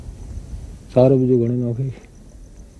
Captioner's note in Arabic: الصوت المنطوق باللغة الأجنبية